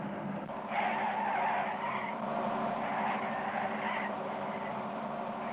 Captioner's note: tires screeching